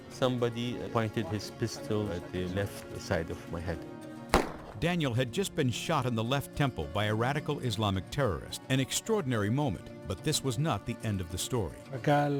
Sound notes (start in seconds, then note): 4.3 gun fires; 12.2 speaks in foreign language